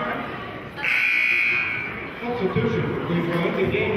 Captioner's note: buzzer sounding